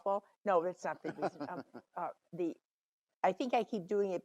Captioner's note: laughs